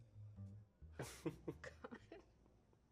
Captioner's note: chuckles